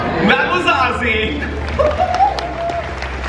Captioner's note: applause